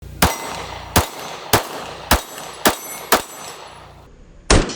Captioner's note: gun shoots multiple times